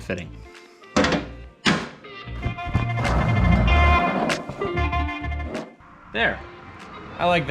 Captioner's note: objects thudding; upbeat music continues